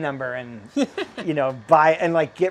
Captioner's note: laughs